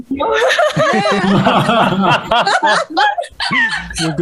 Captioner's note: risas